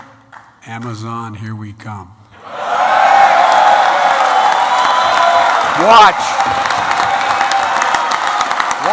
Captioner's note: applause